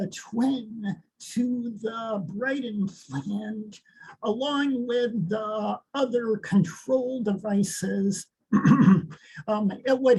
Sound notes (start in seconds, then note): 8.5 clears throat